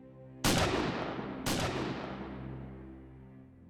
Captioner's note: gunshots